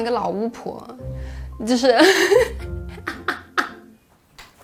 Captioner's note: laughter